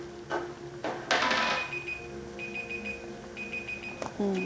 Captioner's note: alarm ringing